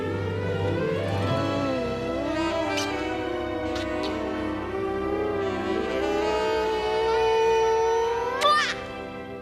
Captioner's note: kissing noises